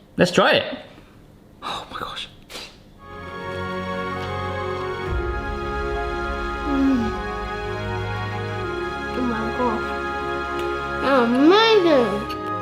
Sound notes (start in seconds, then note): 3.2 heavenly music; 6.9 moans